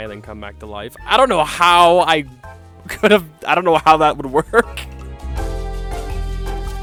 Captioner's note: laughing